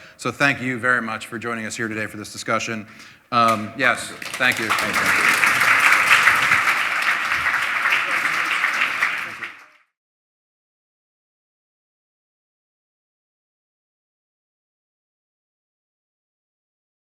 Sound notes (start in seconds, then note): 3.9 applause